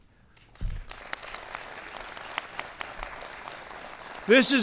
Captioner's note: applause